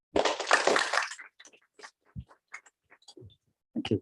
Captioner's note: applause